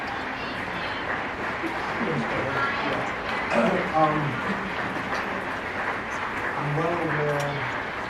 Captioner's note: applause